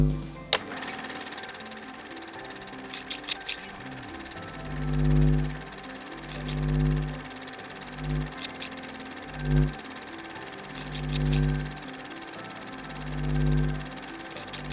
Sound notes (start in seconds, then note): 0.6 film reel flickering; 0.6 scissors snipping; 4.2 gentle instrumental music